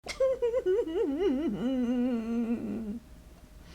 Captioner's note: crying